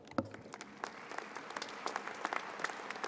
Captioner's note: applause